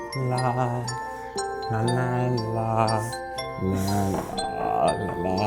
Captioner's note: bells chime melodically